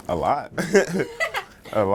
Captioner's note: laughter